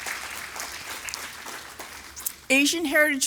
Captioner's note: applause